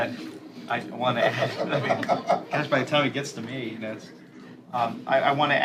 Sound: laughter

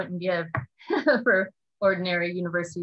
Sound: laughs

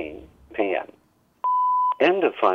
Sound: beep

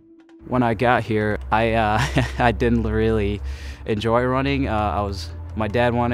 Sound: laughs

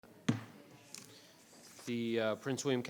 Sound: gavel banging

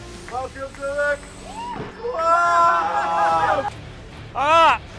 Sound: shouting

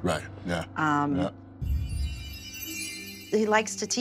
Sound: chimes tingling

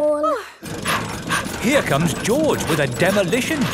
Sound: daddy pig panting

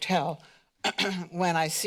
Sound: clears throat

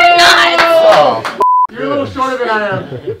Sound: beep

